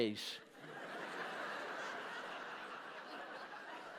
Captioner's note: laughter